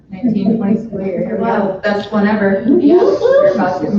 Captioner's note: overlapping chatter